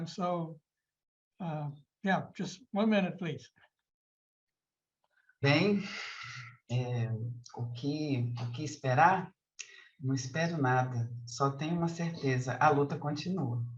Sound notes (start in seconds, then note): 7.0 begins speaking in Portuguese